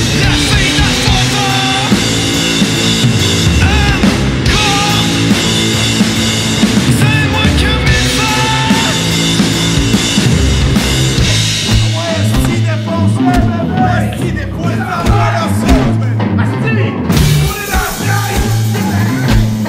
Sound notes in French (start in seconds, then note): 14.1 Encouragements et cris